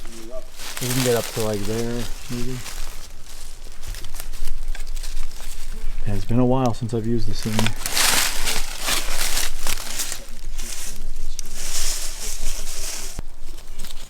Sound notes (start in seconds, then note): 4.3 leaves rustling; 8.9 indistinct conversation; 8.9 leaves rustling